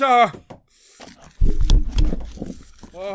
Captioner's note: thud